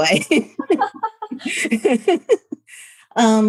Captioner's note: both laughing